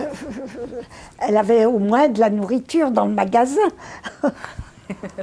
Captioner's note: laughing